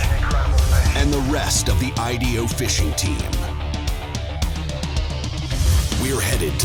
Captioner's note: voiceover